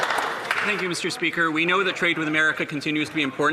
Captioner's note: some Applause